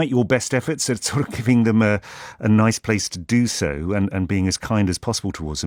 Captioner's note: laughs